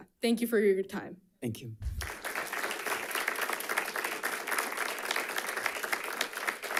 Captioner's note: audience applauding